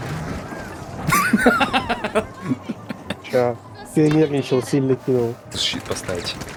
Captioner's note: смех